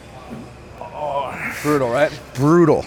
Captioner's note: grunts